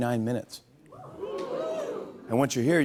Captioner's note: audience "Oohs"